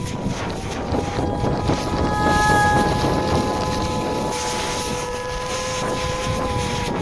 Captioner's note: portal sound, wind rushing